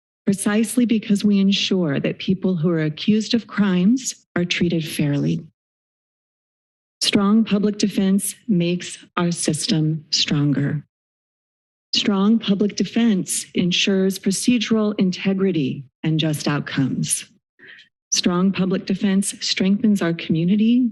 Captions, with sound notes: precisely because we ensure that people who are accused of crimes are treated fairly." [silence] Strong public defense makes our system stronger. [silence] Strong public defense ensures procedural integrity and just outcomes. Strong public defense strengthens our community